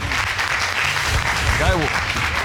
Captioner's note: audience applauding